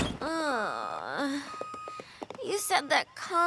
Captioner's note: beep! beep! beep!; groans